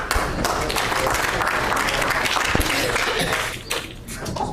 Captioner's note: audience applauds